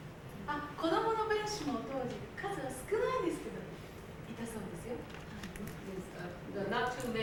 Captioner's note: speaking Japanes